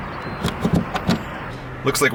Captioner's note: click